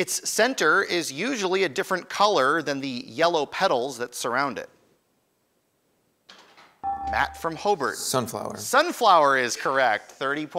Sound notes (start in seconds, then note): 6.8 ding